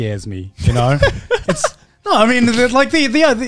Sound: laughing

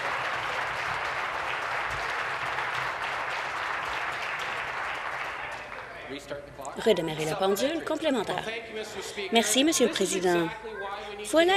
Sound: applause

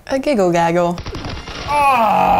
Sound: automatic gun fires

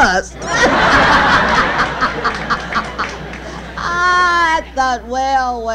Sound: she and the audience laugh

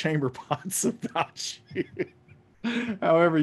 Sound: laughs

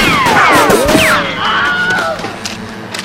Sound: scream

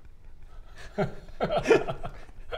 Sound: nervous snickering

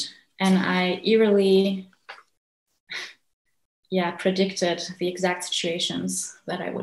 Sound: gasps

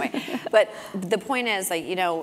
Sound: laugh

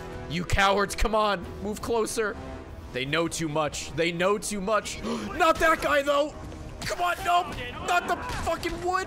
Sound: gasps

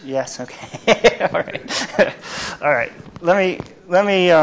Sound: laughs

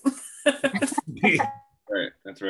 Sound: laughs softly

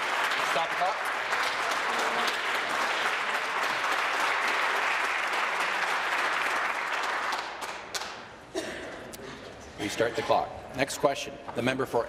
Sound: applause

